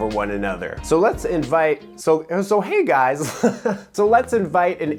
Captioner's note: laughs